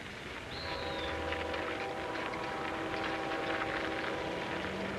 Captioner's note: train whistle blowing